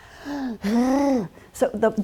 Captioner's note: gasp